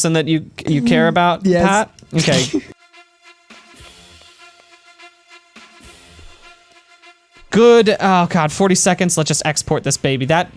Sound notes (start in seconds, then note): 2.1 pat; 2.1 snort laughs